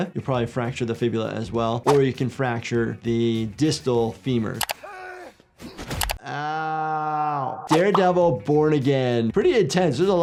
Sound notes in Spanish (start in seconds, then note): 6.2 personajes gruñendo